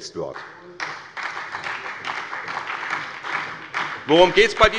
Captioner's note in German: Beifall bei der SPD